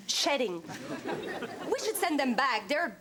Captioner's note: audience laughs